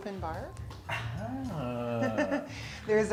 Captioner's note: giggling